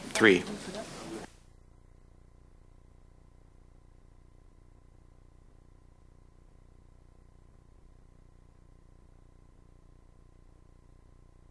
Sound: no speaking

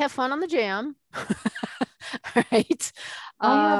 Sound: laughing

